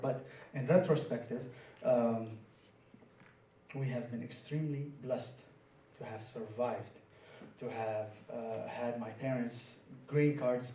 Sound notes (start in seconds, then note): none